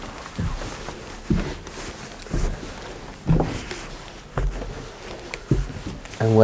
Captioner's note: footsteps tapping up the stairs